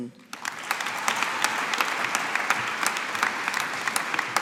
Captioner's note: audience applauding